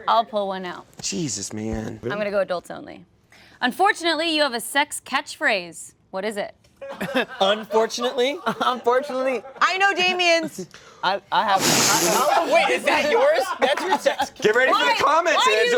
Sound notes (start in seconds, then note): 6.8 laughter; 11.6 gasps exaggeratedly